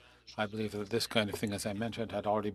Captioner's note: speaking FRENCH